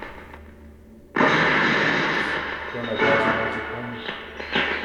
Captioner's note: clattering noises